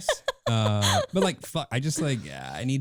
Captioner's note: laughing